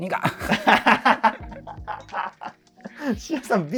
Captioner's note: laughing